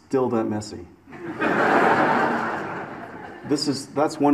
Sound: audience laughs

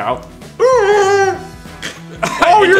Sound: distressed mooing

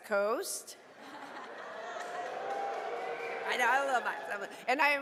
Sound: audience cheering

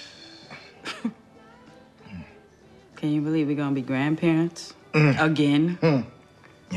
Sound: scoffing

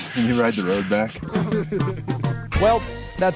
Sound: all laughing

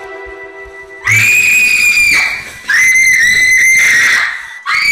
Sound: screams

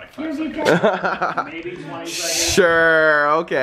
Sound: laughs

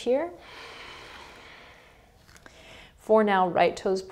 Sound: heavy breathing

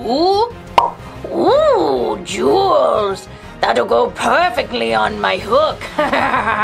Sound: laughs

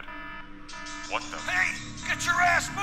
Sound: alarms blaring

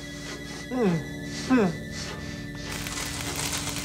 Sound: whimpers

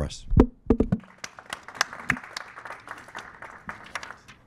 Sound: applause

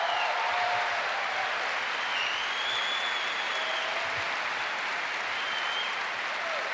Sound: cheers and applause

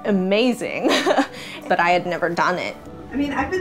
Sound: laugh

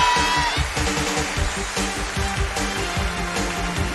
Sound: applause

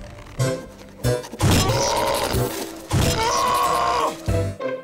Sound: screaming

